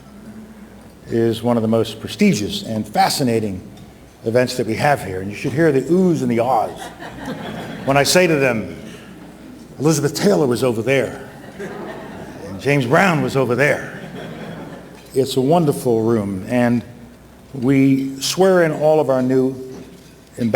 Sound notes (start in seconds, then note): 7.4 audience laughs; 12.1 audience laughs; 14.8 audience laughs